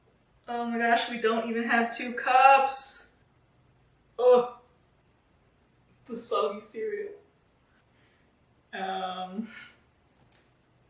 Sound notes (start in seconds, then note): none